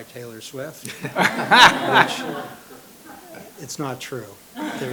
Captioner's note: laughter